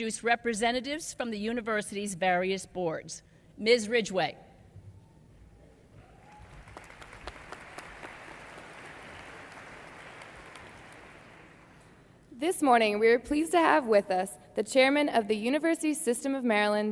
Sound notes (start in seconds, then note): 6.2 applause